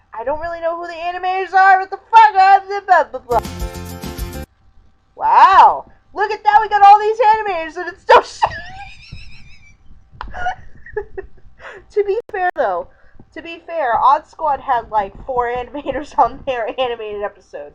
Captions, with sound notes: I don't really know who the animators are- ahjsdhjnsdkskkifjfjskenjdjkcd. (theme credits continue) WOW. Look at that we got all these animators AND IT'S STILL SHI- (wheezing laughter) To be fair though...to be fair, Odd Squad had, like 4 animators on their animated episodes,